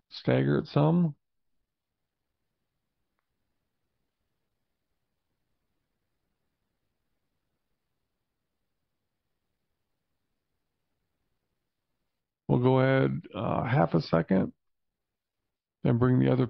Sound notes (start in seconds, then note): 1.4 silence